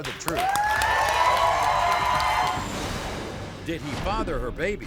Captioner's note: crowd cheers